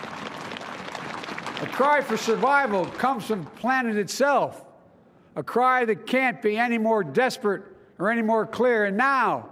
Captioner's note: applause